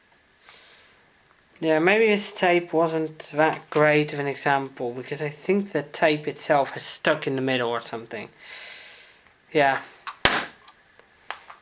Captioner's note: smack